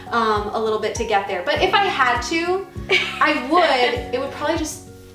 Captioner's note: laughing